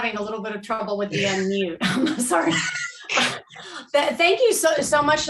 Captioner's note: laughs